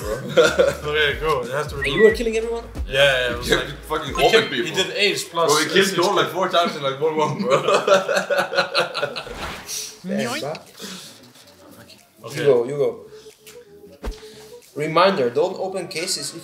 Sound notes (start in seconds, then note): 0.0 person laughs; 6.4 people laugh